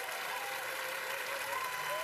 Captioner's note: cheers and applause continues